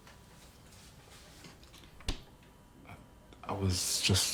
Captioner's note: fridge clicking shut